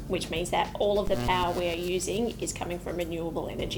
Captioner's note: electricity buzzing